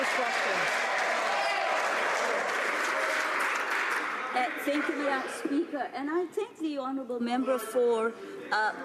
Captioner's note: some Applause